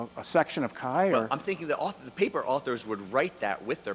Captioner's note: voiceover